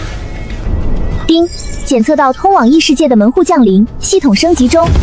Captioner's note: ding!